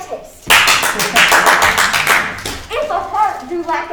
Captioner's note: crowd applauding